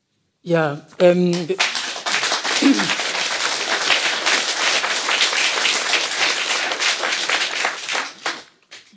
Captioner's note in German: Applaus